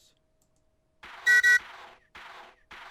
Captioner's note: choo-choo